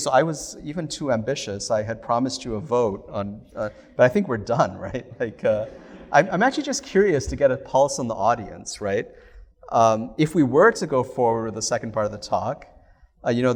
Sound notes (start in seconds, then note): 5.5 laughter